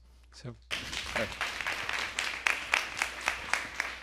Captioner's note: applause